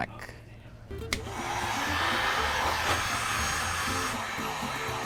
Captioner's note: heat gun blowing